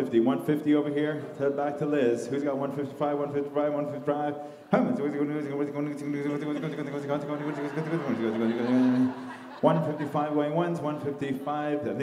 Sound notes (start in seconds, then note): 4.7 mimicking an auctioneer